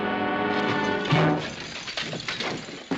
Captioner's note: crash - thud